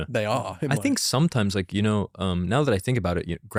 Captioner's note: laughs